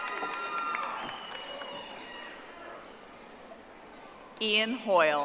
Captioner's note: audience applauding